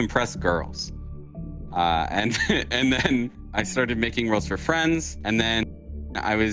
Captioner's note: laughs